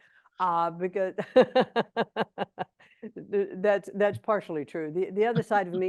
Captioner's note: laughs